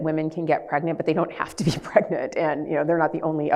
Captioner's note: laughs